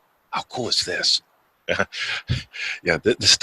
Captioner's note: chuckles